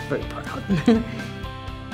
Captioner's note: laughs